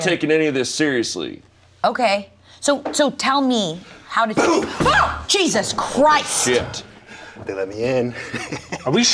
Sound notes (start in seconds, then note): 4.4 shouts; 8.0 laughs